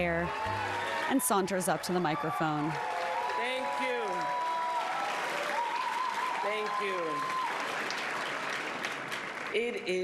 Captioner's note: applause